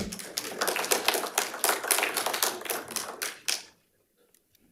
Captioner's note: audience applauding